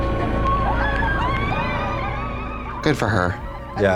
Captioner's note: Yellowjackets whooping